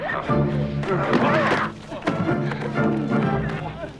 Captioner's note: all grunting